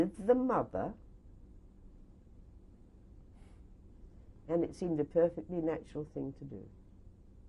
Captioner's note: pauses for 3 seconds